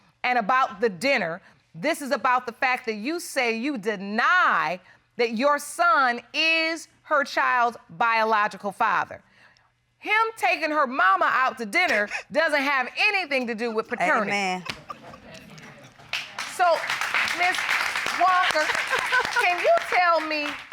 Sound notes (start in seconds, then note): 13.2 giggling